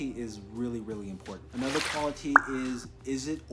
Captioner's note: swoosh pop